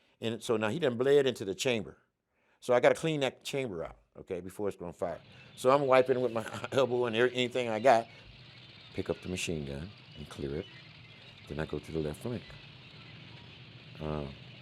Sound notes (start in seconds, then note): 5.2 chuckles; 5.6 moving tank echoes